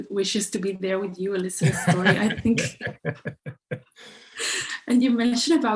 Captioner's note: both laughing